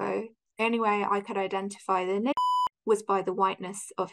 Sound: tone beeps

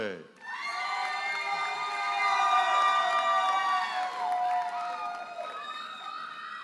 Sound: audience cheers and applauds

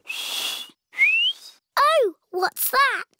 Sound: whistles

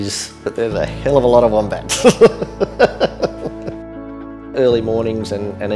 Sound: chuckles

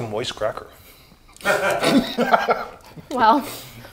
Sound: laughing

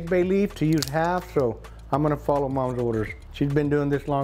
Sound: leaf crunches

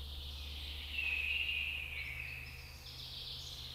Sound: birds chirping

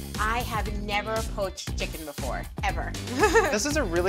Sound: laughter

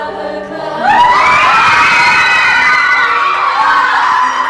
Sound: kids scream!!!!!!

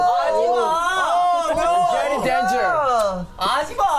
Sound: speaking in Korean

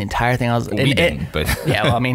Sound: laughs

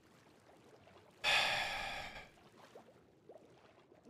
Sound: sighs

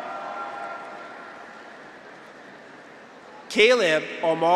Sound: graduates cheer

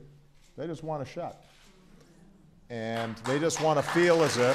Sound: applause

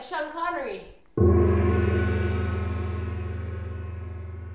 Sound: gong

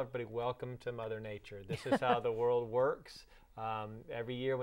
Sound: laughing

